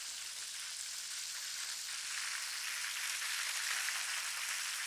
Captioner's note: food sizzling